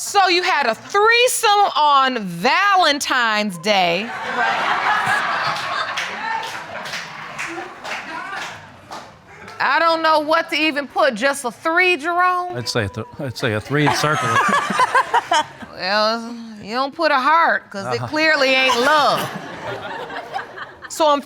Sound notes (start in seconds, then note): 4.0 audience laughs; 13.1 stammering; 13.4 audience laughing; 17.8 audience laughs